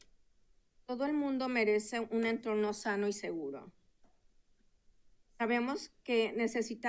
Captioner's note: speaking in Spanish